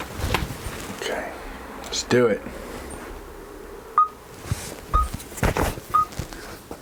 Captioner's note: beeping sound